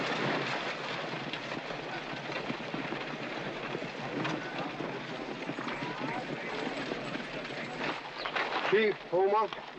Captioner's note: crowd noises